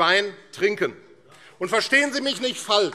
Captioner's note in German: Beifall AfD